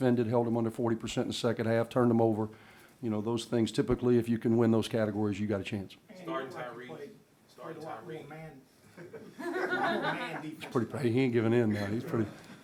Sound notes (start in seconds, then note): 8.9 laughing